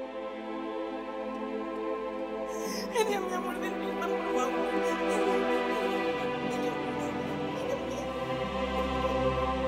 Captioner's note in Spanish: Sollozos